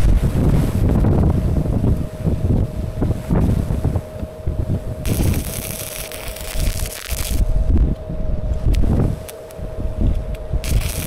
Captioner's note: wind blowing